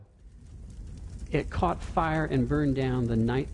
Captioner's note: sounds of a crackling fire in background